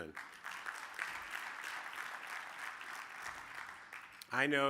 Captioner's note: audience applauding